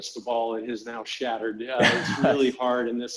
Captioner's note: laughs